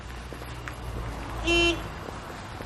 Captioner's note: car horn honking